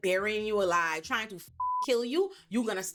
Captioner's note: beep